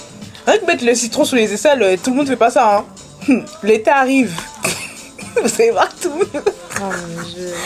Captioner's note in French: rires